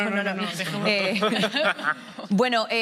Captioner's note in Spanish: Risas